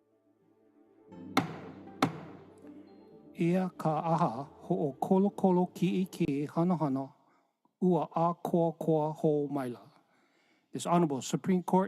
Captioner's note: gavel bangs twice